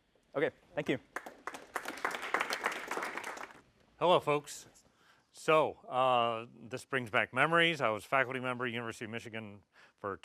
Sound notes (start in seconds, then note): 1.0 applause